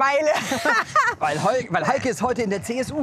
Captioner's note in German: lachen